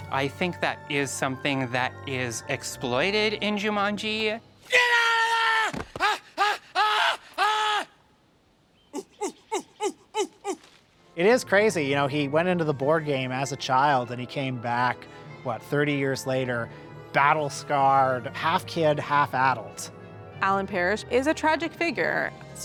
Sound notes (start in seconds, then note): 4.6 screams; 8.8 monkey hooting